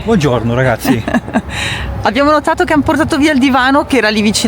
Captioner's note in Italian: risate